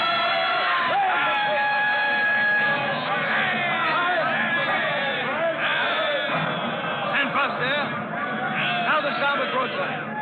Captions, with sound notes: (CHEERING) Ten-plus, dear. Now the star will cross the line.